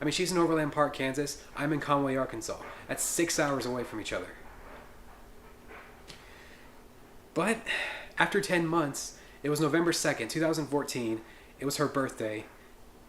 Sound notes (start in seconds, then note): none